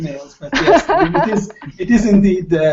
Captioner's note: laughter